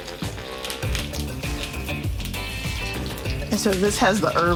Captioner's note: sizzling, popping